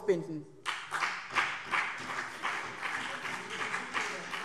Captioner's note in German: Beifall BÜNDNIS 90/DIE GRÜNEN und CDU